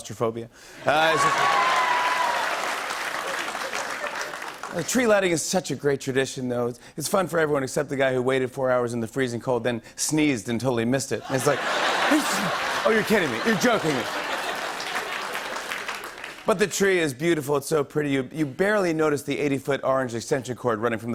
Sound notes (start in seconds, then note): 0.8 laughter and applause; 14.2 laughter and applause